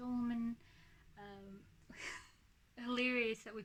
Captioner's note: quiet laugh